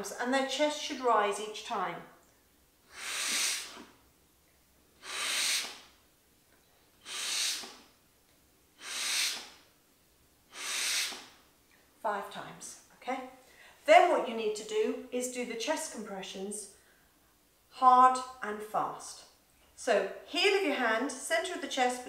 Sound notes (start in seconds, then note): 3.1 blowing